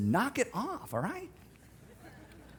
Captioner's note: scattered laughing